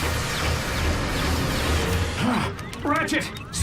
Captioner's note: exclaims